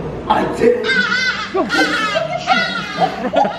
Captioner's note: bird cawing; laughing